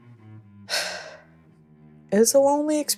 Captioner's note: sighing